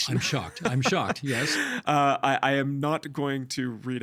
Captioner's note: laughing